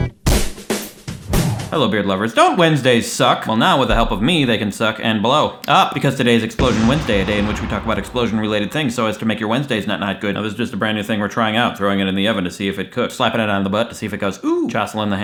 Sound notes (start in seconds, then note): 6.6 explosion